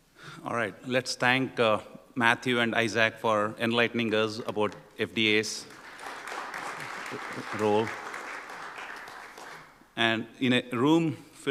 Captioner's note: applause